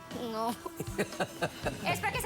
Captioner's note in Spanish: risas